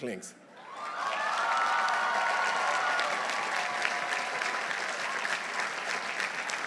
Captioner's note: audience cheering; audience applauding